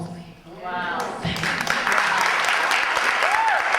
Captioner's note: audience cheers and applause